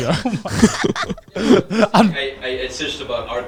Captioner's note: everyone laughing